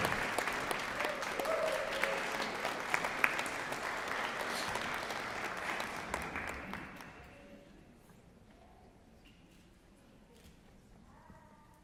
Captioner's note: applause